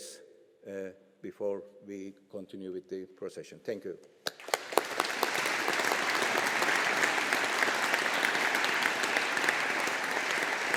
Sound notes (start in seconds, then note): 4.3 audience applauding